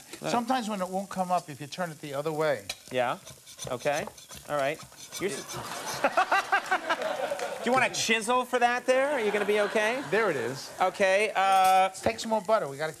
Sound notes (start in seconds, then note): 5.3 laughs